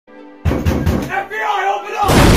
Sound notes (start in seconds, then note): 0.4 heavy knocking